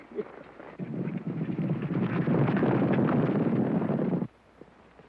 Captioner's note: hooves pounding